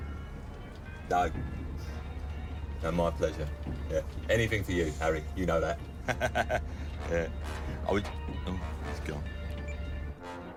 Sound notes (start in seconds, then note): 5.8 laughs